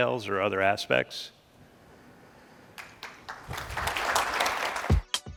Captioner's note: applause